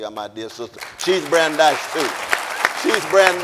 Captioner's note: audience applauding